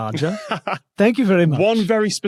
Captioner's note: laughs